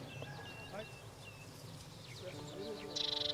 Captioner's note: birds calling